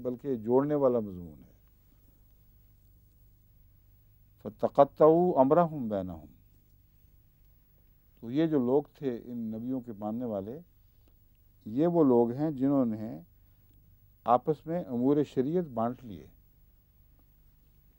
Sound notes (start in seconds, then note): 4.3 Arabic